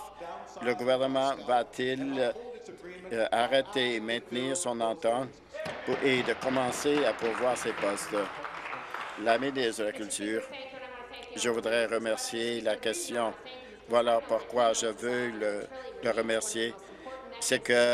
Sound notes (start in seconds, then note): 9.2 applause